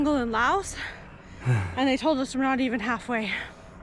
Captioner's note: panting